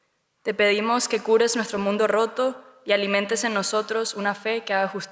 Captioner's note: speaks Spanish